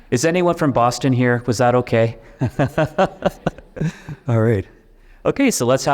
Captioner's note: audience chuckles; laughs